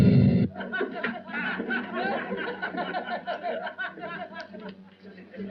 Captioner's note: laughter